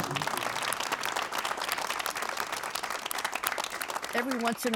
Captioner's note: audience applauding